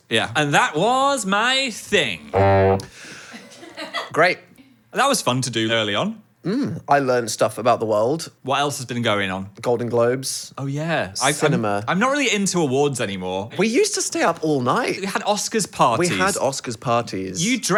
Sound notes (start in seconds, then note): 2.3 horn blowing